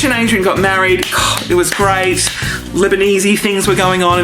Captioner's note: clapping